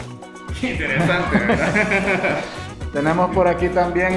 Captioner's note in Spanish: Risas